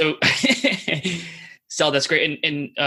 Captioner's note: laughs